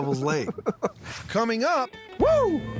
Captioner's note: laughing